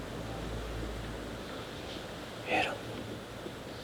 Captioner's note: whispering